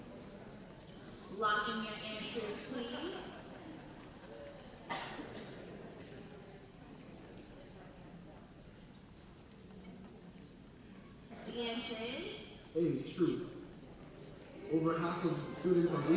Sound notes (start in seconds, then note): 4.3 audience chatting